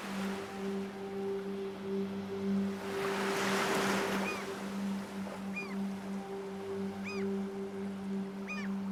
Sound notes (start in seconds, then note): 5.0 bird squawks